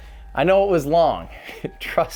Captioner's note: laughs